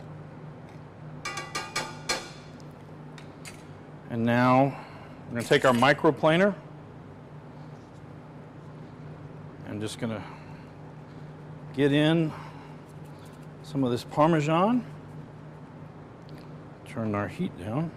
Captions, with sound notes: (utensil thudding) And now we're gonna take our micro planer. I'm just gonna get in some of this Parmesan. Turn our heat down.